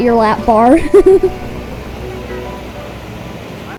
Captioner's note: giggling because of a corny joke